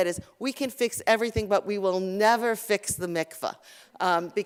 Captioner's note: Hebrew